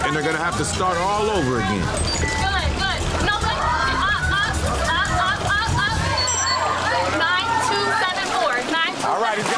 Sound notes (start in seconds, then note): 3.8 contestants shouting; 5.8 digital beeping